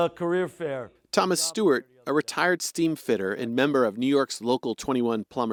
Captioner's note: voice-over